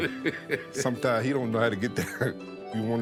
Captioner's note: chuckling